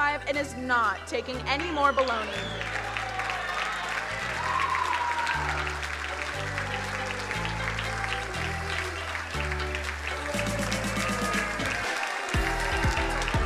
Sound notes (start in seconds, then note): 2.6 crowd cheering and applauding; 10.6 bouncy music